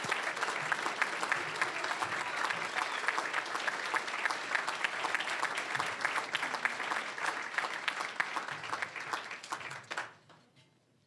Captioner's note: applause